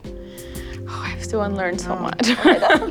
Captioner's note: laughs